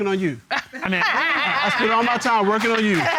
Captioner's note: laughing